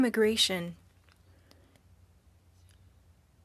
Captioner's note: speaking French